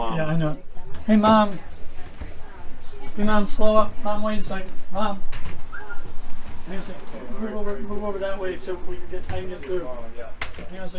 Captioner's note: whistles